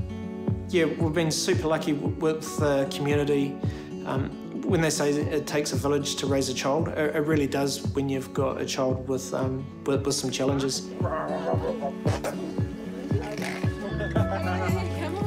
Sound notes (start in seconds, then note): 11.0 blows raspberry; 13.9 laughs